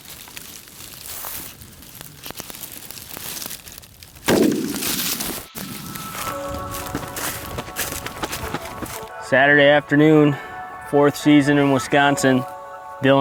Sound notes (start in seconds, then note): 4.3 gun firing; 7.3 calm electronic music